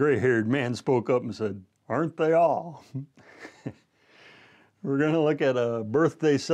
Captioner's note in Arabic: ضحك